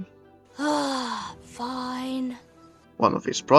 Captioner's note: sighs